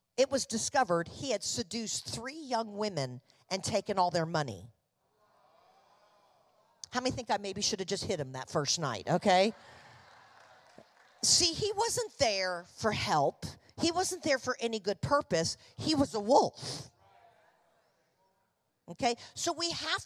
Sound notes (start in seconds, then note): 5.1 congregation reacting; 9.4 congregation applauding